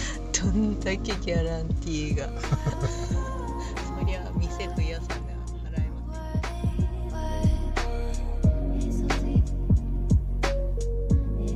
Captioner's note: laughs